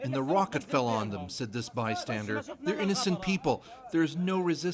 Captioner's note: speaking alternate language